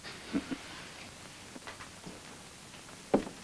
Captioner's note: chuckles